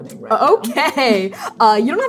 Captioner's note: laughing